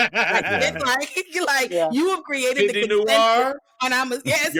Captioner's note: laughter